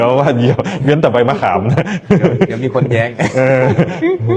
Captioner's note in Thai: เสียงหัวเราะ